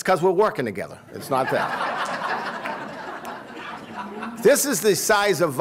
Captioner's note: laughter